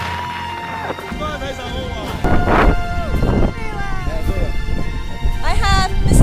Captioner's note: man speaking Mandarin